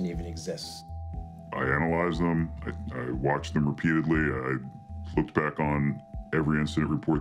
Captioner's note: distorted voice